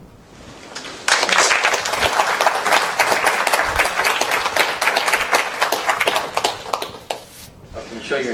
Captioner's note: applause